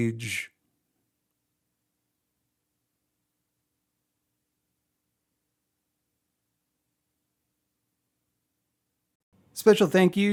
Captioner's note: depressed silence